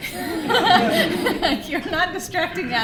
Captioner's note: laughter